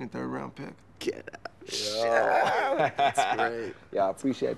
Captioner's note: Radar laughs